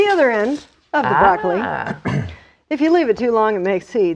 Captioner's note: laughing